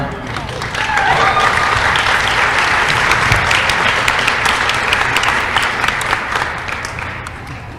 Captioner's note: applause